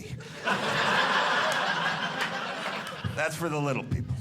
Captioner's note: audience laughing